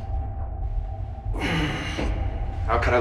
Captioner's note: tense music; Tyler grunts